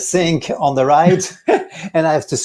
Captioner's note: both laughing